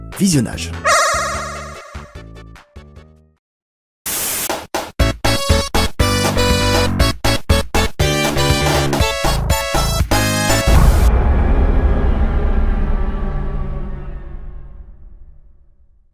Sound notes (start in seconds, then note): 4.1 static noises